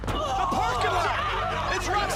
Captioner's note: yelling